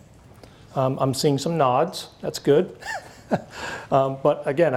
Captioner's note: laughs